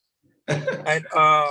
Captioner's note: laughs